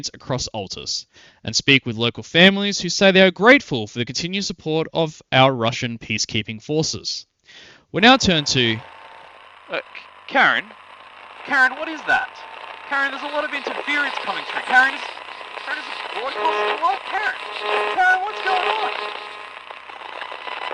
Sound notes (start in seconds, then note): 8.9 static; 9.7 slightly muffled; 10.8 static; 19.2 static